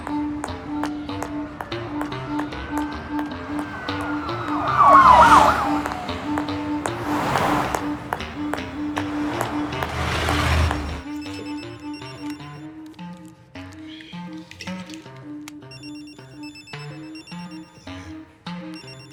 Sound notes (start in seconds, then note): 4.3 sirens blaring; 4.3 whimsical music; 10.6 phone ringing; 16.2 phone ringing